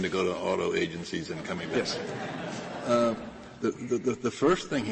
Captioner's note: laughter